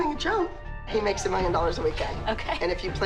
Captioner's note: laughs